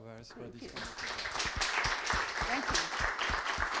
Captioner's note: audience applauding